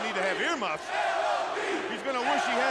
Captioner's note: crowd cheering